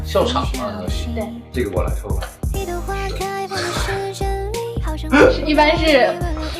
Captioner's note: both laughing